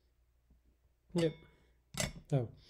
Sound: glass clinks

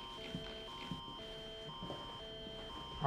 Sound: radio plays emergency alert sound

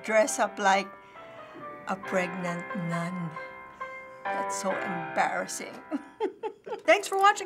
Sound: chuckles

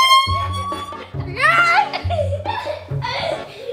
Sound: laughing

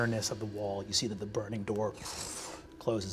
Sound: imitates magic dissipating

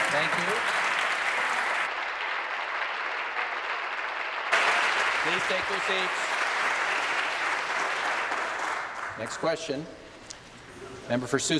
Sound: applause

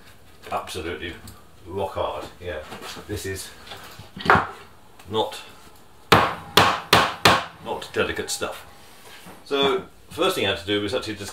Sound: hammering

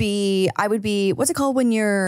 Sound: none

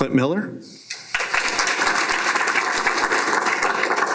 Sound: applause

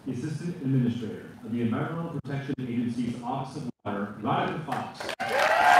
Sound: applause

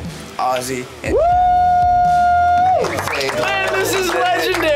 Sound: howls

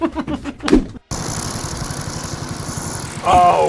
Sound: laughs; mulcher rumbling

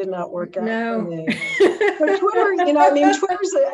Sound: laughing

